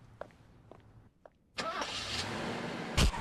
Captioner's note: engine turns over